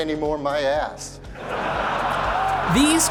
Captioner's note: crowd laughing